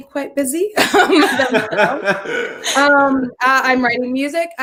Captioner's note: everyone laughs